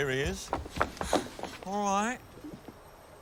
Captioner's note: pants